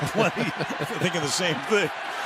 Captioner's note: laughter